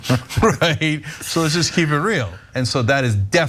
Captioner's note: laugh